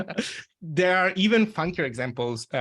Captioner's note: everyone laughing